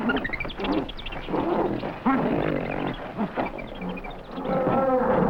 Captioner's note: gorillas grunting